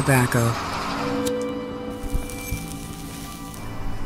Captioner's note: lighter flicks, cigarette burning